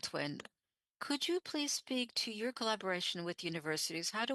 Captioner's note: speaking French